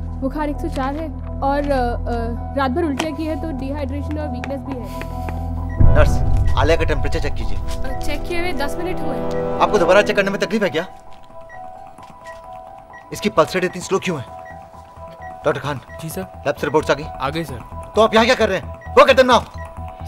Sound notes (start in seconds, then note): 4.9 Footsteps; 11.2 Beeping sound